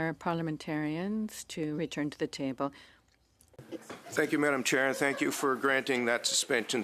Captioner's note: speaking French